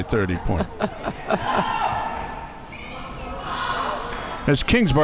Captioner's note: laughing